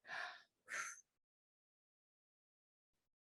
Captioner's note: exhales